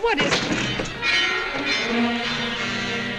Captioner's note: wall clock chiming